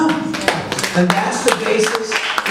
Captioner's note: audience applauds